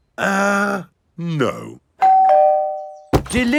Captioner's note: doorbell rings